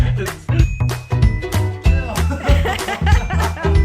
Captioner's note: laughing